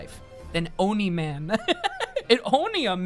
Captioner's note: laughs